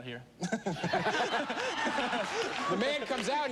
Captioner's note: laughter